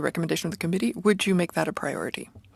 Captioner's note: speaking French